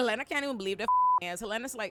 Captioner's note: beep